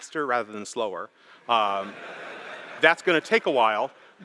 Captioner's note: laughter